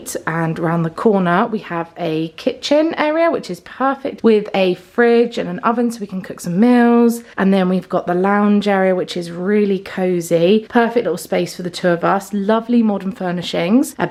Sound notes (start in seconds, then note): none